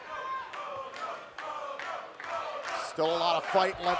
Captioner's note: fans chanting